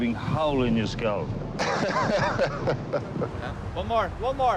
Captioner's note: captain salazar laughs